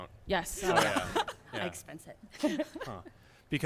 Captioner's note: laughter